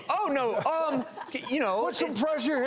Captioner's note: doctors laugh